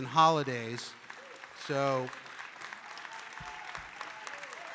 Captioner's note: audience applauding